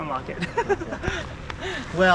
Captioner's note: giggles nervously